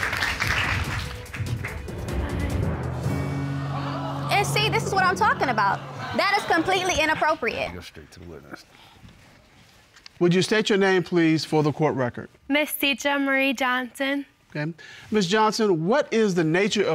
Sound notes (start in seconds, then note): 3.2 audience exclaims